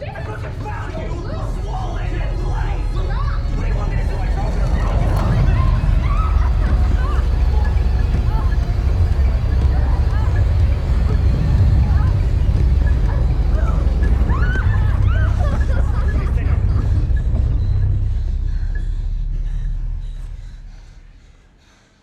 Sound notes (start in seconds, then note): 5.9 violent rumbling; 14.1 screaming; 19.2 heavy breathing